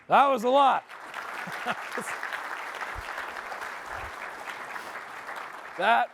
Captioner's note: applause